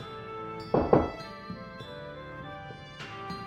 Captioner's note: knock knock